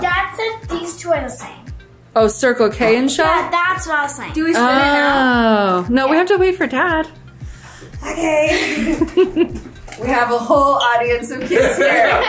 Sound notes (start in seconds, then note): 8.2 laugh